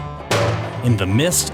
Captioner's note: clang